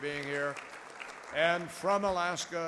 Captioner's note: applause